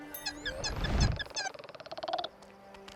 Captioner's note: chittering